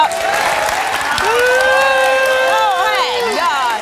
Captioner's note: booing